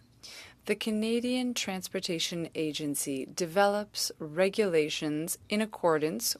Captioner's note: speaking French